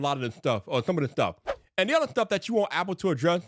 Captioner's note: screen whooshing